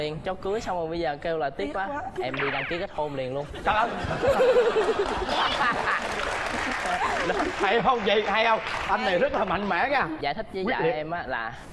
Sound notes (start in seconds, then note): 4.0 laughing